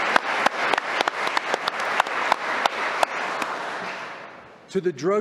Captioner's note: applause